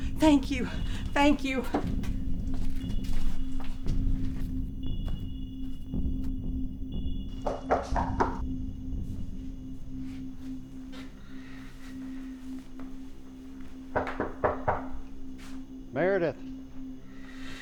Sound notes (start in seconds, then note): 3.6 suspenseful music; 7.4 person knocking at door